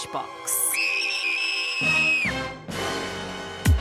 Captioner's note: screams